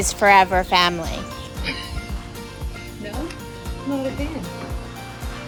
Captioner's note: laughing